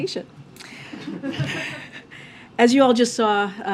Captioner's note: laughter